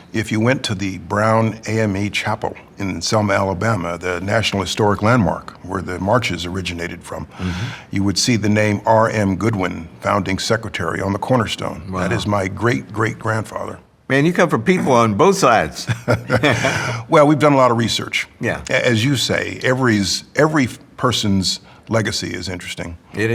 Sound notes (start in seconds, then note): 15.8 laughs